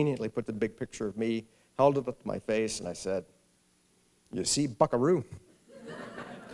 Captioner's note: laughter